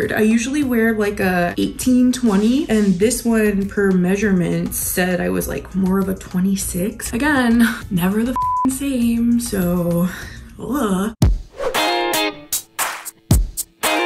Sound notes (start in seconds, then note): 8.3 beep; 11.6 upbeat music